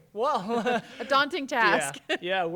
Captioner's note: chuckles; interviewer chuckles